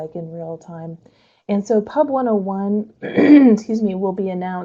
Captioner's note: clears throat